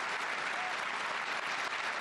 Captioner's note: applause